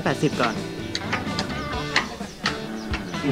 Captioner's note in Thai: เสียงไม้เท้า